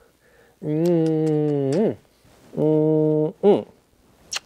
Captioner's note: kissing sounds